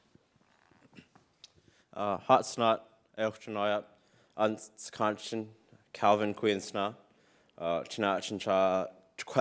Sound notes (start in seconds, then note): 1.9 speaks in Sk1wx1wu7mesh